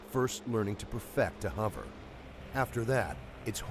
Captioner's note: voiceover